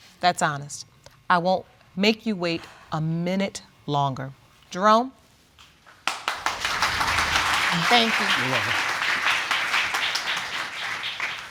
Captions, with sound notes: That's honest. I won't make you wait a minute longer. Jerome. (AUDIENCE CLAPPING) Thank you. You're welcome.